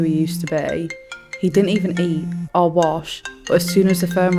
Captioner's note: phone rings